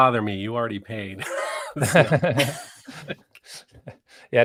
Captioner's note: laughing